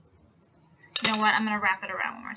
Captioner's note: wood hitting table